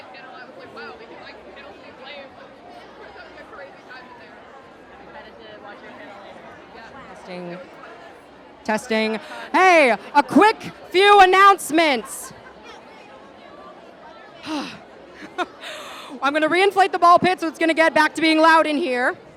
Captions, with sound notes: testing... Hey, a QUICK FEW ANNOUNCEMENTS! [sigh] [incredulous laugh] I'm gonna reinflate the ball pit so it's gonna get back to being loud in here